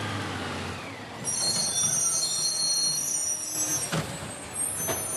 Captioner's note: garbage truck hisses